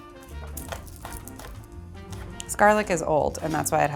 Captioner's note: cutting board thudding